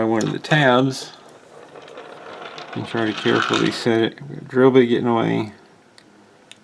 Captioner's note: rolling sound